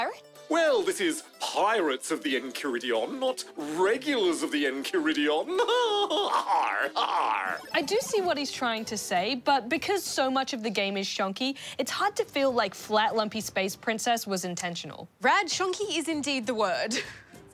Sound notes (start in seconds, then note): 5.4 laughs